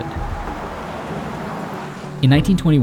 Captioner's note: cars whooshing